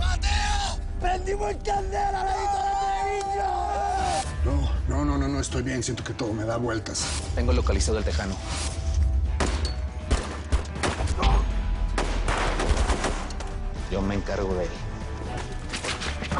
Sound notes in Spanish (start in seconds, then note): 9.2 Disparos